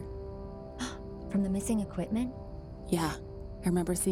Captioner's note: gasps